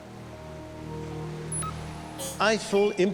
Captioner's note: computer chirps